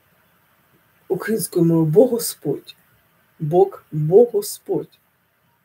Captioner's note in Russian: украинским языком